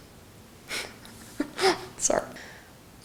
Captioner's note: laughs